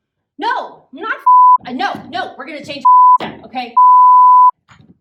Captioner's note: beep